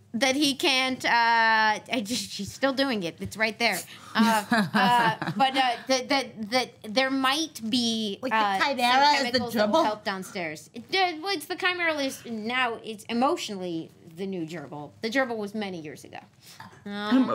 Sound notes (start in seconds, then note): 4.3 laughter